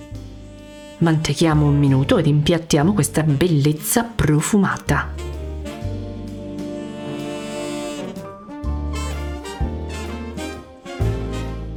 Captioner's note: speaking Italian